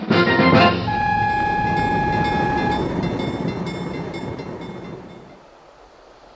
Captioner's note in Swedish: Biltuta och järnvägsövergångsljud